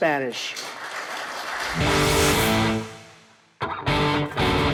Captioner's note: applauding; rock music